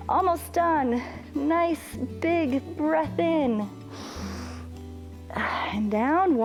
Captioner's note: inhales